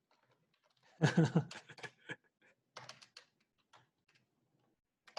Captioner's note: laughing softly